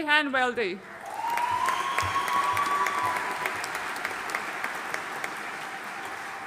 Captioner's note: audience cheering and applauding